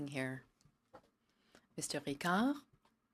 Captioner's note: speaking French